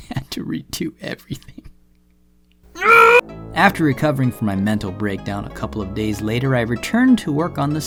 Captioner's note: anguished screams